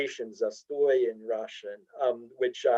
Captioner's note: speaks in Russian